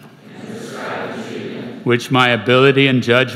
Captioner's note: crowd